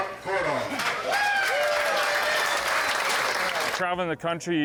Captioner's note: crowd cheers